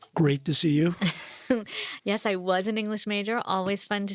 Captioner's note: chuckles